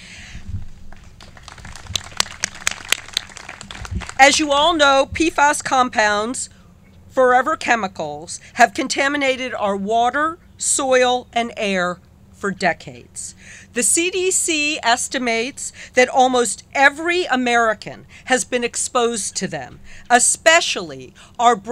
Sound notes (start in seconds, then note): 1.0 clapping